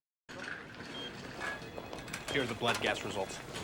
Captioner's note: machine beeping